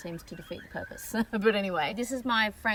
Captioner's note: scoffs